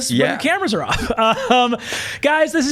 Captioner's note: laughs